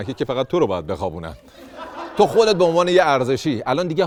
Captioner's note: laughter